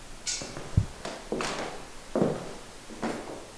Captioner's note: footsteps